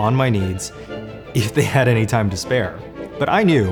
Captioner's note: laughs